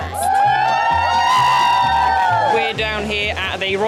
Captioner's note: cheering